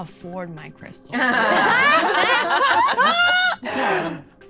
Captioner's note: laughing